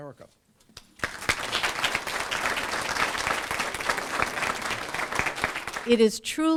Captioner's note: applause